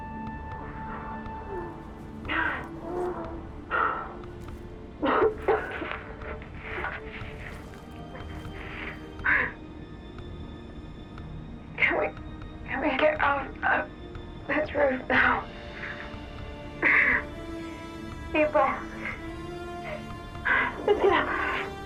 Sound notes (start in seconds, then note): 0.2 gasping; 5.0 coughs